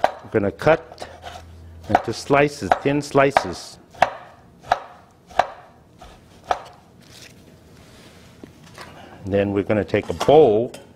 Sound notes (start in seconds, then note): 4.1 knife banging on board